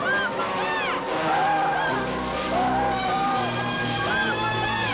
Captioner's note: Joe screaming